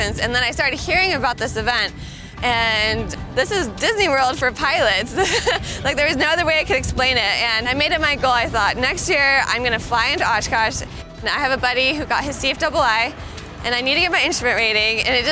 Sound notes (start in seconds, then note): 4.9 laughs